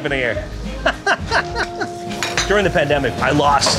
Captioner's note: person laughing